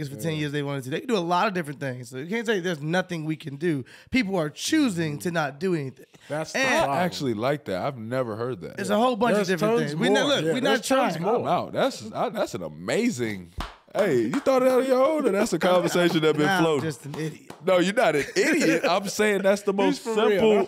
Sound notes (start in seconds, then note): 13.5 claps hands; 17.9 laughing